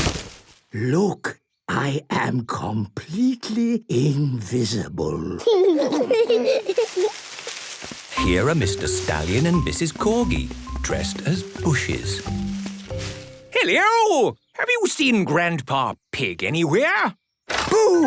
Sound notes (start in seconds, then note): 0.9 whispering; 5.3 kids giggling